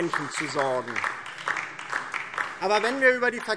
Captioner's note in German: Beifall DIE LINKE